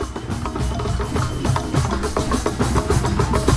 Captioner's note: crowd cheering, whistling, exclaiming; drums playing